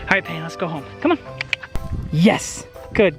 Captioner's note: clicks tongue